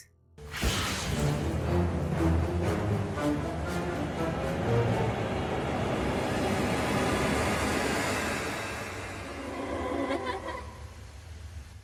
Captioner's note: spirit noises